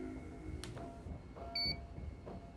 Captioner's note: beep